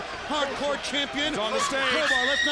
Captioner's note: screaming